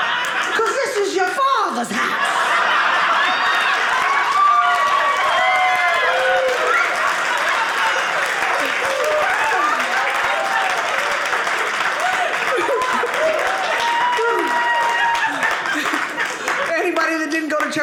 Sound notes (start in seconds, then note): 0.0 audience laughing; 2.0 audience cheering